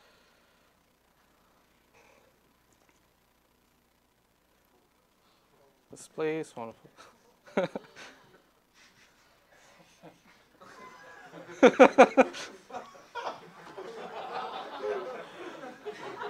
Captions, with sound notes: Let's play this one. (laughs) (audience laughing)